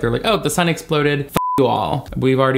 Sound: beep

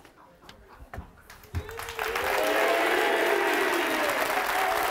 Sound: audience applauds

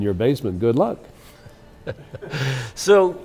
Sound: laughs

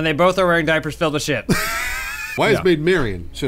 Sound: wheezing

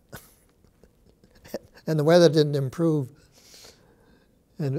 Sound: chuckles

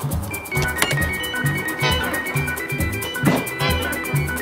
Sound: machine beeping

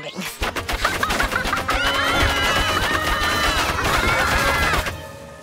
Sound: laughing; screaming

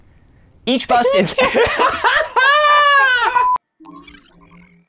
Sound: laughing

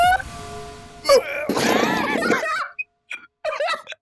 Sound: impact Sfx; laughter

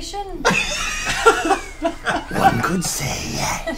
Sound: all laugh

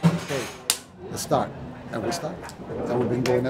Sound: claps

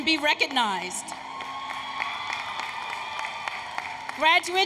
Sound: applause, Cheering

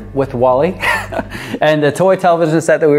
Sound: laughs

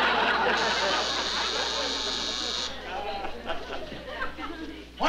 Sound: buzzing

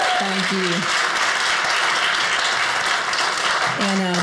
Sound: audience cheers

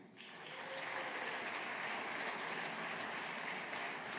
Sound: audience applauding

